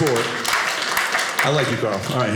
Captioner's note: audience applauding